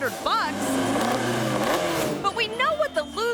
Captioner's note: car engine revving